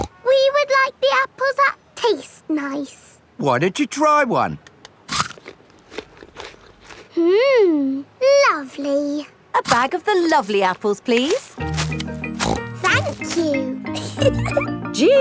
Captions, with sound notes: (SNORTS) We would like the apples that taste nice. Why don't you try one? (CRUNCHES) Hmm, lovely! A bag of the lovely apples, please. (SNORTS) Thank you! (GIGGLES)